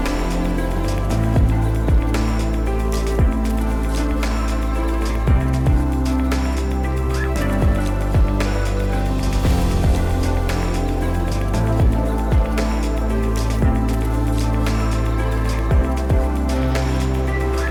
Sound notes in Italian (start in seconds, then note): 0.9 Applauso